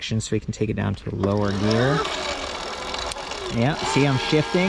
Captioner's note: engine revs